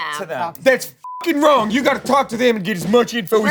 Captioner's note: beep